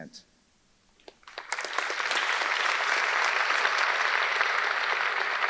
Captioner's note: audience clapping